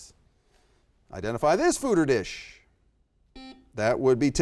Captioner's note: buzzer beeps